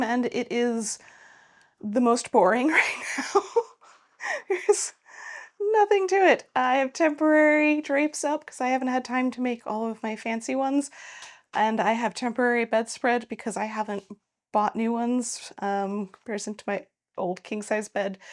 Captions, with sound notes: and it is the most boring right now. (laughing) There's nothing to it. I have temporary drapes up because I haven't had time to make all of my fancy ones, and I have temporary bedspread because I haven't bought new ones compared to my old king-size bed,